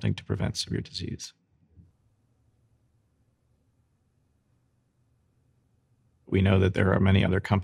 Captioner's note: silence